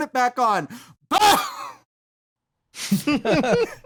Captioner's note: brief, barking scream; laughter